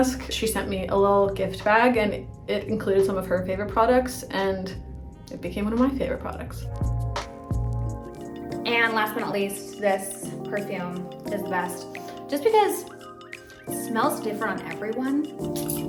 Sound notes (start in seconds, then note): 6.7 gentle music; 11.8 sniffs